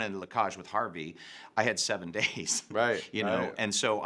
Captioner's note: laughs